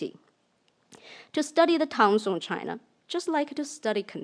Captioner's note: speaks in foreign language